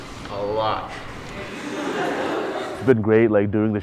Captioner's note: audience laughter